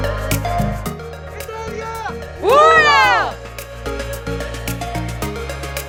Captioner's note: people shouting